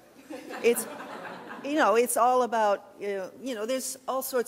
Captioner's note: laughing